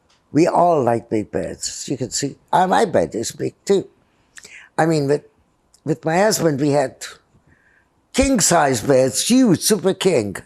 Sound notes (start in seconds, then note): none